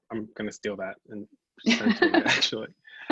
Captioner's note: both laugh